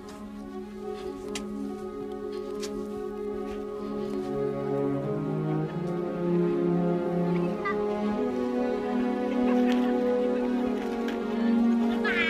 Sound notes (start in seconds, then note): 5.8 chattering; 5.8 laughter